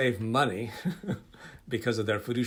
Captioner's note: laughing